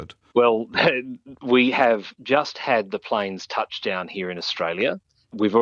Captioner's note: chuckles